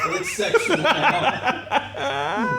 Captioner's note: laughing